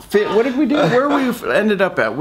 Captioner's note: laughs